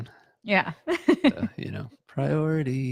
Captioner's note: laughing